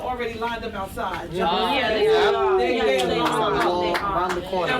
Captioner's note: people chattering